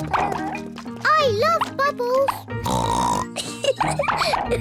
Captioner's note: oinks and giggles